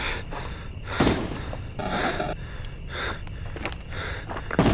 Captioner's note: distant gunshots